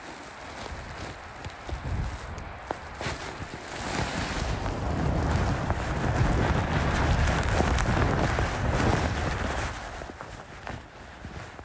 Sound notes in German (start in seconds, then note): 4.2 Windgeräusch